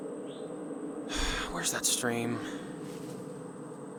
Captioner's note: sighs